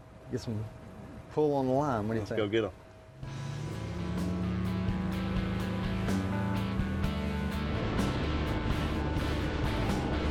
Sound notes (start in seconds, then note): 1.4 engine roaring; 1.4 upbeat music